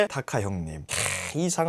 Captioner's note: sighing